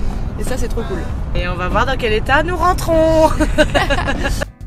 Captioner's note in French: rires